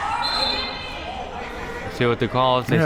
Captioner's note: whistle blows